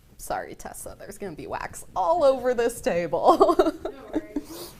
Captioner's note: laughing